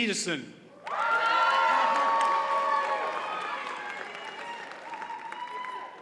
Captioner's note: audience cheers and applauds